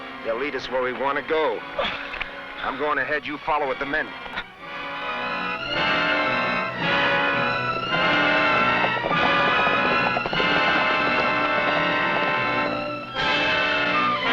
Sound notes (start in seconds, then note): 4.6 tense music; 9.4 horse hooves pattering